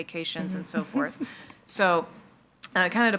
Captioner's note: laughs